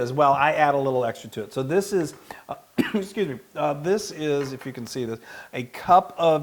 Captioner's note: cough